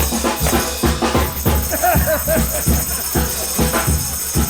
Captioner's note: laughs